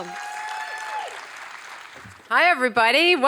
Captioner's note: audience applauding